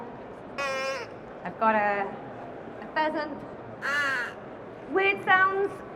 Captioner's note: crow noise; pheasant noise